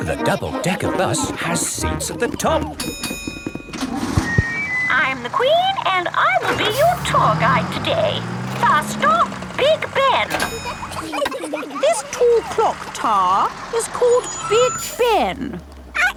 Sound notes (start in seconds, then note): 2.8 bell dings; 11.0 kids giggling